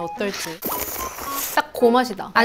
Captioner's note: slurp